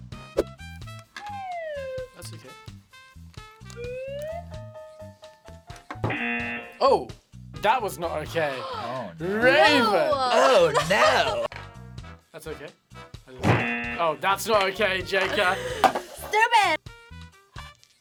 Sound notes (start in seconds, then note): 6.1 buzzer; 10.3 gasps; 13.6 buzzer